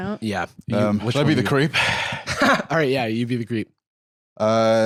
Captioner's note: laughs